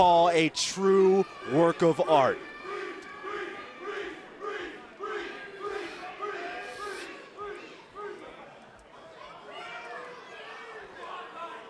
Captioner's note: crowd cheering